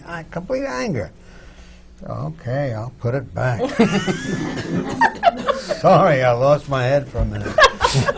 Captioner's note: laughter